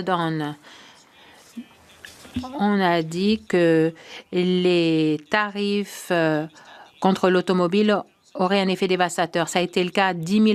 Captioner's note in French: voix de l'interprète